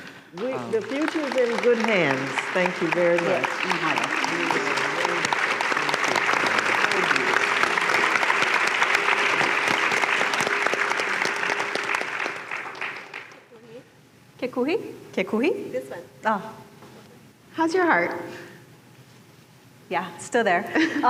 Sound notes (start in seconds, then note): 2.0 applause; 3.8 applause; 5.9 applause continues; 20.7 laughter